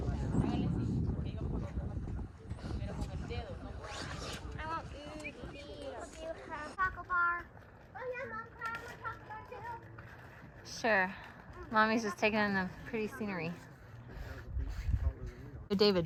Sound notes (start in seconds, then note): 1.8 the beautiful view and people speaking Spanish in background